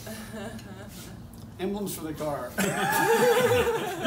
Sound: laughter

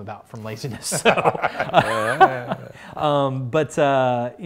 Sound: laughs

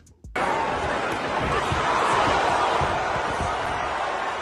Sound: crowd cheering

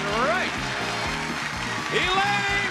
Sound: cheering

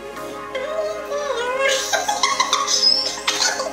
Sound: giggles

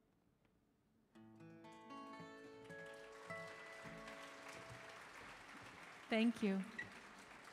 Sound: gentle music; audience applauding

